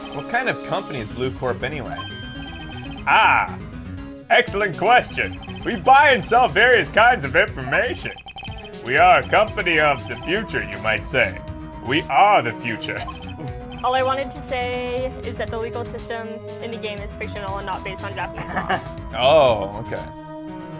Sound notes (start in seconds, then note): 12.7 chuckles; 17.6 laughs